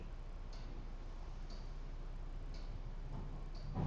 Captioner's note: clock ticking